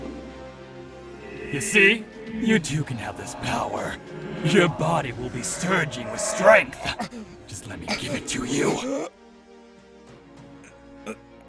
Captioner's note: Jackson chokes